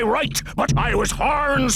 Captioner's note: none